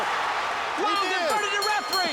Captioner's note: bell rings